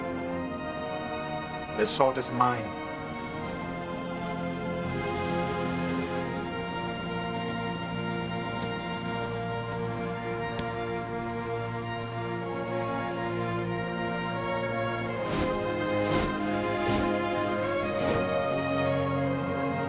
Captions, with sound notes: His sword is mine. (footsteps) (wooshing)